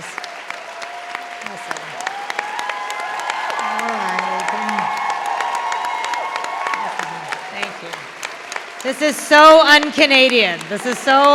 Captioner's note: thunderous applause continues